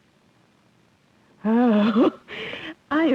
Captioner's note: chuckles